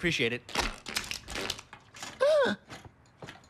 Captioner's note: gasping